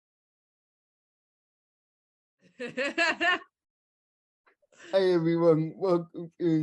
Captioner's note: laughing